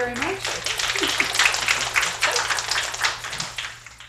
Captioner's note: applause